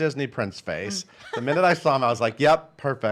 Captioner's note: laughing